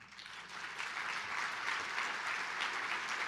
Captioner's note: applause